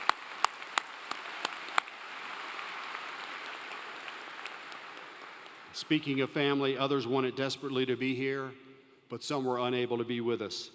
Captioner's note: applause